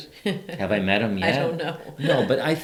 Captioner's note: laughs